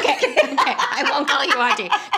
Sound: laughing

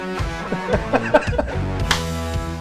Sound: laughs

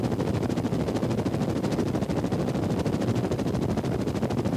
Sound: helicopter

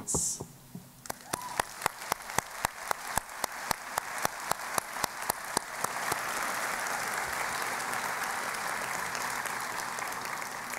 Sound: applause

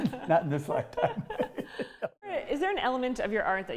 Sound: laughs

